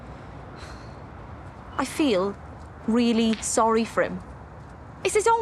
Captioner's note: she sighs, softly